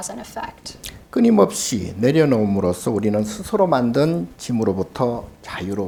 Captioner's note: speaking Korean